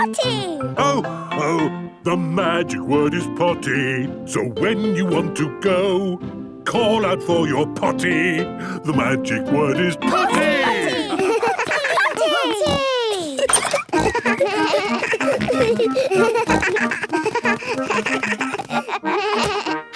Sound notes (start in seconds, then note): 13.8 giggles; 16.1 snorts, bleating